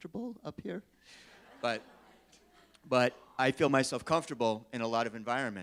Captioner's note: laughing